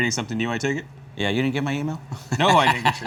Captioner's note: laughs